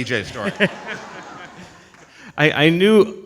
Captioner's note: audience laughs